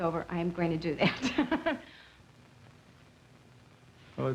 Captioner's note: laughs